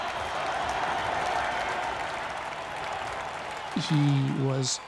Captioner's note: cheering